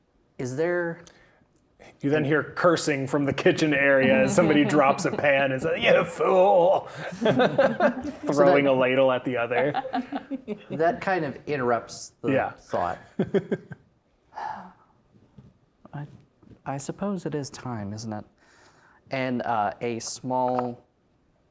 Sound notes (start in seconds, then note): 7.2 laughing; 9.8 players laughing; 12.2 laughing; 14.2 sighs